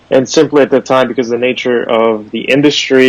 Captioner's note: none